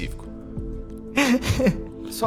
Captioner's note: laughing